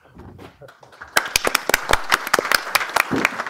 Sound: applause

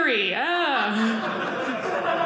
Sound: audience laughing

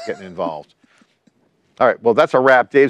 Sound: laughs

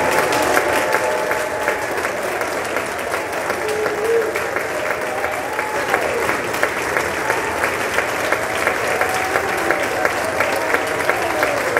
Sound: applause

